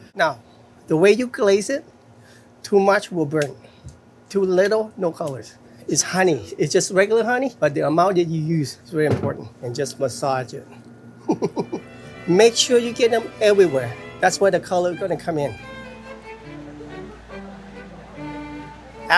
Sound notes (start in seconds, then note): 11.2 laughing; 15.7 playful classical music